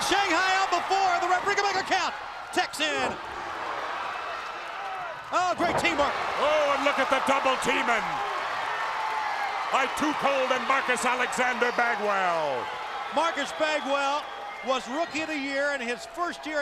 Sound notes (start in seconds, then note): 3.6 crowd cheering